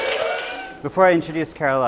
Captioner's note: audience cheers